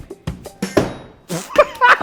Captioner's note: ax striking; laughs